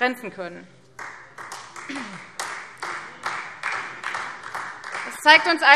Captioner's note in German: Beifall Freie Demokraten und vereinzelt SPD